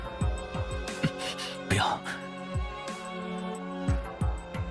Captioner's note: gasp